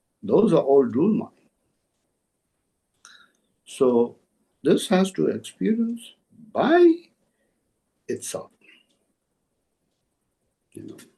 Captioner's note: tibetan